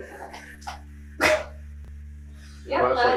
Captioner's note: laughing